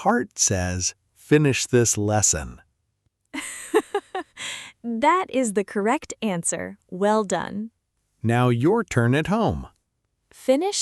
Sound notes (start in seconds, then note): 3.4 laughs